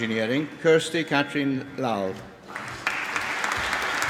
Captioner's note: applause